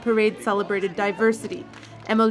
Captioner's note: speaking French